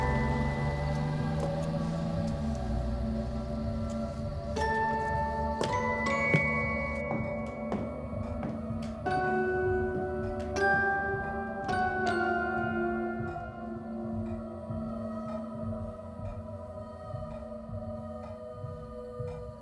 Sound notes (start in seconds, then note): 5.7 footsteps plodding; 5.7 pensive music continues